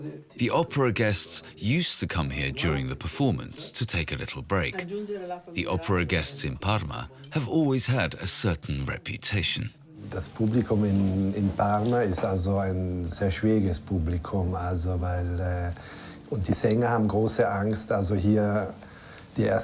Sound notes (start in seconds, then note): 9.9 speaks in foreign language